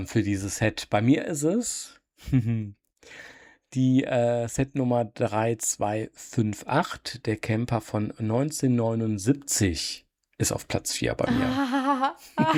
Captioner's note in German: gelächter